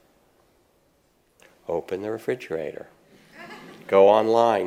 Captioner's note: audience laughs